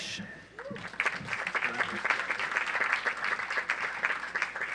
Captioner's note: audience applauds